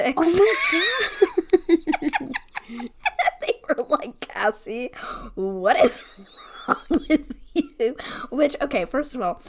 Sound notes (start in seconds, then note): 0.2 laughs; 0.3 wheeze laughs; 3.2 laughing